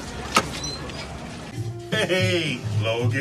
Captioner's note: door squeaks